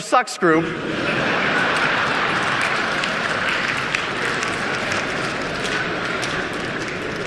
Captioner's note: audience clapping; audience laughing